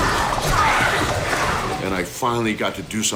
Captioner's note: zombie groaning